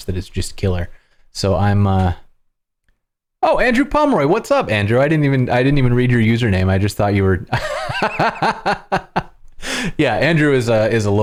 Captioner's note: laughter